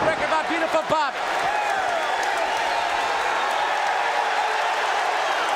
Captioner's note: audience cheering